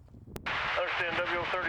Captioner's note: muffled radio chatter